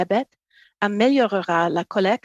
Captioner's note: speaking French